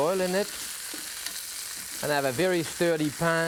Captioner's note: chicken sizzling